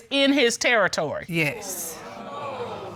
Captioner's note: audience exclaiming